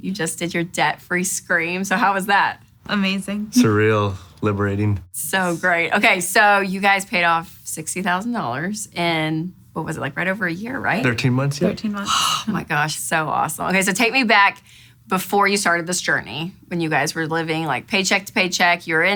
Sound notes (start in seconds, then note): 12.0 exhales